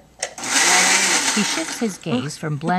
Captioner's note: blender sound